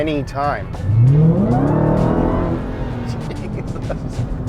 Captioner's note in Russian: двигатель вращается